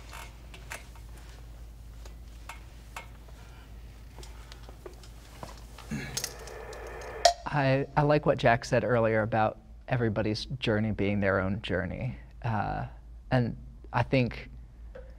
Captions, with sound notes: (dramatic tone resounds) (timer clicks) - I like what Jack said earlier about everybody's journey being their own journey. And I think I...